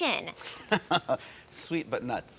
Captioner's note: laughter